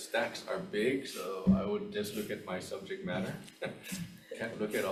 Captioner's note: chuckles